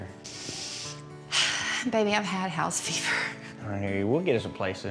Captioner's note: sighs